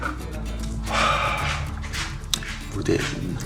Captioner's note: sigh